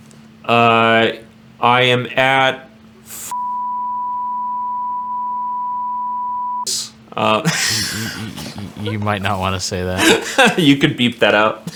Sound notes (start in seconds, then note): 3.3 beep; 11.1 laughs